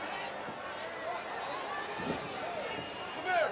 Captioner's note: audience chattering